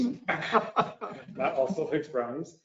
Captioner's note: all laugh